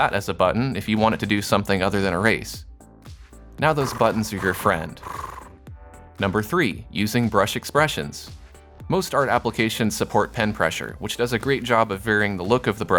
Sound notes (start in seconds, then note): 3.7 cat purrs